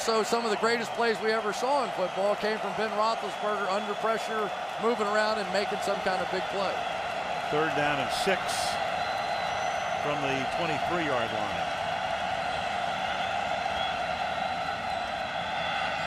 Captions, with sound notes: But also, some of the greatest plays we ever saw in football came from Ben Roethlisberger under pressure, moving around and making some kind of big play. Third down and 6 from the 23-yard line. [cheering]